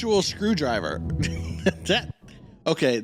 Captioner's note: laughs